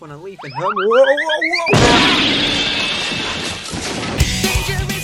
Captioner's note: cartoon slip sfx; CARTOON CRASH SFX THAT IS SO FUNNY, haha